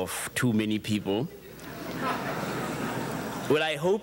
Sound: audience chuckles

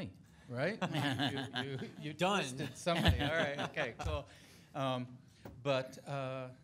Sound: board laughing

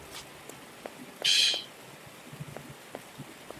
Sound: scoffs

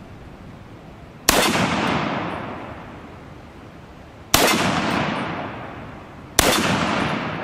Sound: gun fires

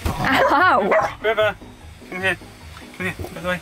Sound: River barking

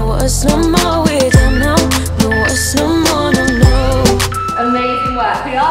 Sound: countdown timer beeping

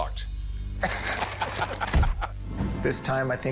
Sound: laughs

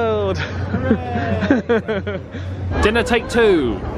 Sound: laughs

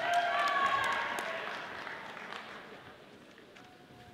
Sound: audience applauding

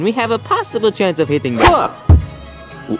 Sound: air quivers

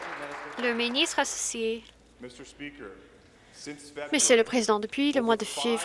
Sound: some Applause

